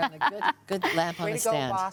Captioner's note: chuckles